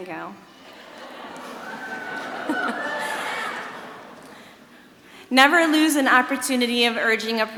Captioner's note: laughs